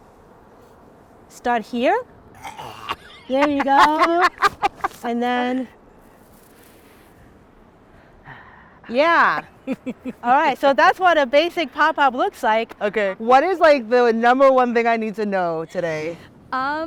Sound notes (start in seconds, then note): 2.4 groaning; 2.5 laughing